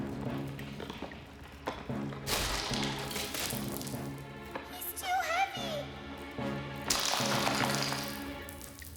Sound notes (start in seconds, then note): 2.2 bridge Cracking; 6.9 bridge Cracking